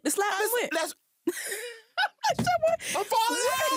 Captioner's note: laughter